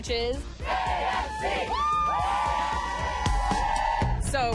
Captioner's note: cheers and applause